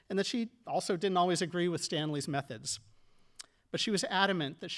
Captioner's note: none